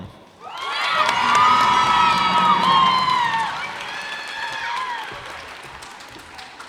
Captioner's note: cheers and applause